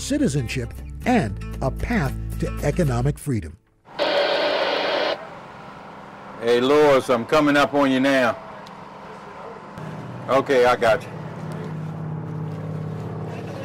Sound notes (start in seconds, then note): 3.9 radio static